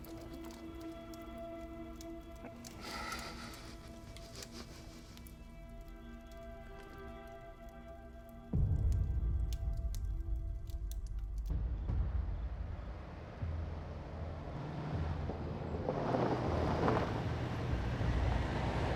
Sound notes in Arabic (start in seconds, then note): 0.1 طقطقة نار; 2.6 بكاء; 12.6 اقتراب سيارة